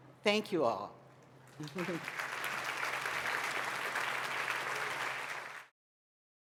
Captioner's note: applause